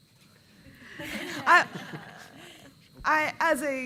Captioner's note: laughing